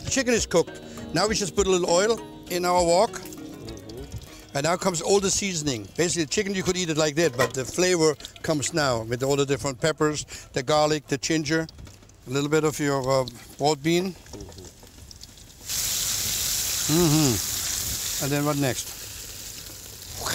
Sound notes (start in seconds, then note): 16.2 sizzling